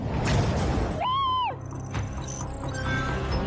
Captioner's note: screams